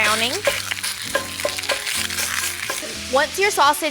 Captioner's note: sausage sizzles